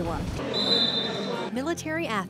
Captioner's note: official whistles